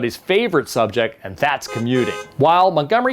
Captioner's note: horns honk